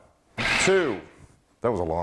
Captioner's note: blender running